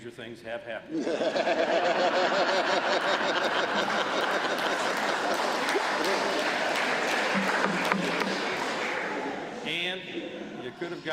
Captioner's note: laughter; applause